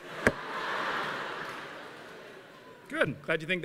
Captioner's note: laughter